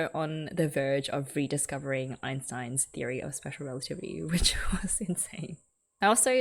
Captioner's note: laughs